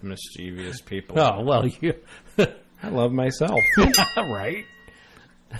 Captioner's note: whistle in background; DJ laughs